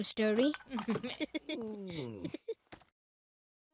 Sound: laughing; Babu grumbling; crying

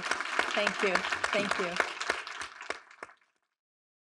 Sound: attendees applauding

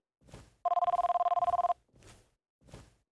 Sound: ringing Continues

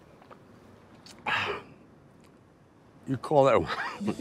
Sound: sighing

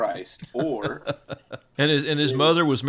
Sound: laughing

